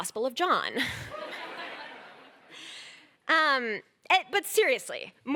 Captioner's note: laughter